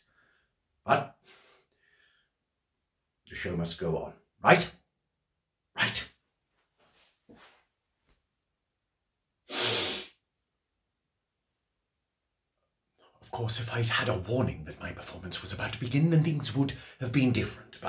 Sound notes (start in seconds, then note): 9.5 sniffs